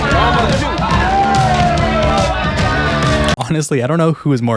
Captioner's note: cheering and high fives all around